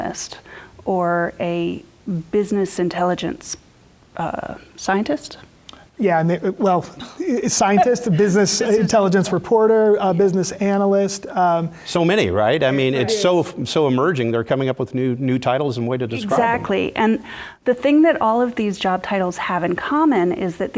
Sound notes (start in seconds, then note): 7.0 laugh